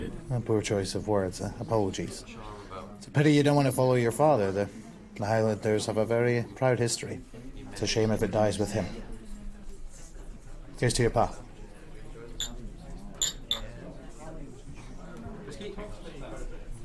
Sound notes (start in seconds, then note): 13.1 glasses clinking